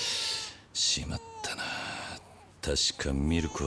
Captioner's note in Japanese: 鼻息